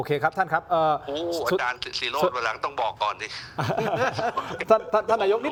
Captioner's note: laughs